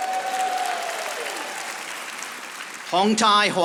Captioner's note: audience applauding